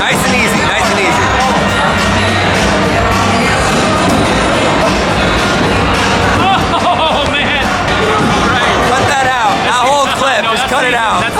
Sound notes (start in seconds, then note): 4.3 laughing